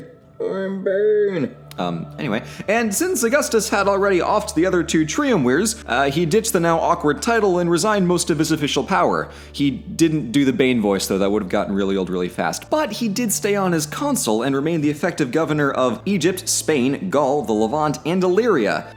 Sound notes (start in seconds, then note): 1.8 in normal voice